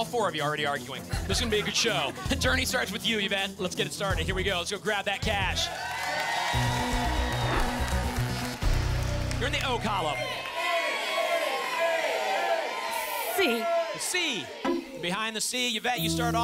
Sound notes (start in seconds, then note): 1.0 laughter; 7.0 audience applause